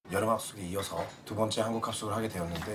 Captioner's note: speaking in foreign language